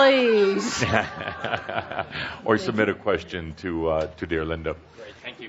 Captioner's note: chuckling